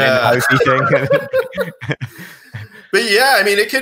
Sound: both laugh

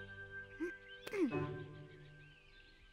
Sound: Hogi grunts

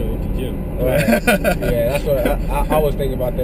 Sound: laugh

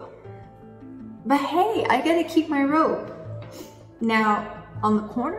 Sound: sniffs

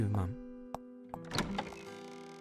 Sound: phone rings; door opens then closes

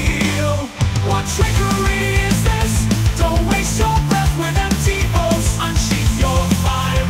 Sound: aggressive

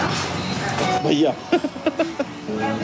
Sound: laughing

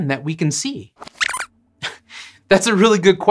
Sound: squeaks squeaks

